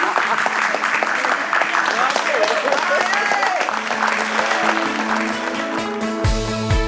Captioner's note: clapping continues; people laugh; people cheering; upbeat music